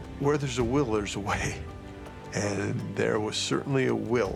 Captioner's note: chuckles